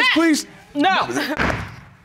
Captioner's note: bangs gavel